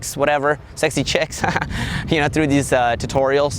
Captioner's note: laughs